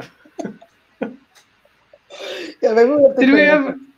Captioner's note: laugh